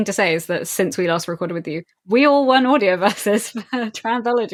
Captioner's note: laughing